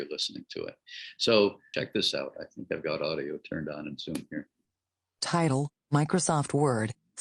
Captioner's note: text reader reading